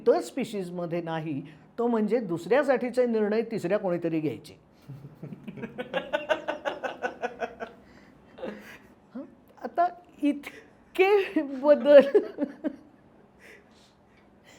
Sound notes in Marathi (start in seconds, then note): 4.8 हास्य